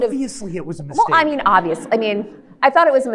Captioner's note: audience laughs